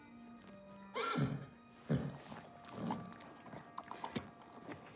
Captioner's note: horse whinnies